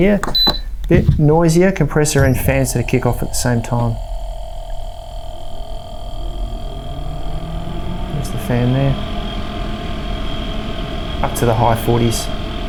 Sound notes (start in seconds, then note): 4.8 compressor buzzing; 6.5 fan drones